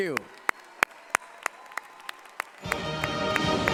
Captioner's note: applause